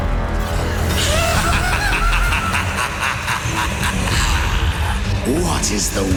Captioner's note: maniacal laugh